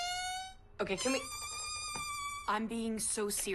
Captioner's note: balloon squeals